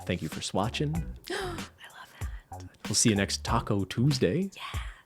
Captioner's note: gasps